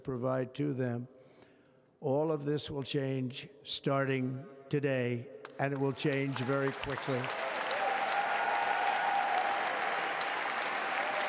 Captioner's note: applause